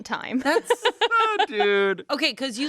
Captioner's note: laughs